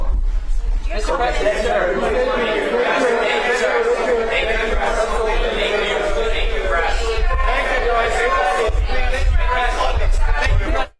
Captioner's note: background chatter